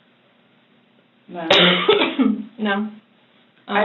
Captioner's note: coughs